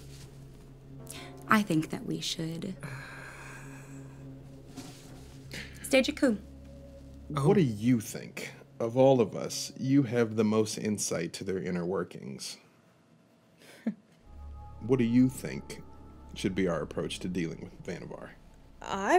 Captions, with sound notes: I think that we should stage a coup. - What do you think? Of all of us, you have the most insight to their inner workings. (chuckling) - What do you think should be our approach to dealing with Vannevar?